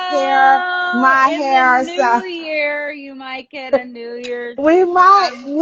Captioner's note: mumbles